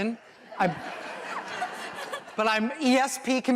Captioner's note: laughter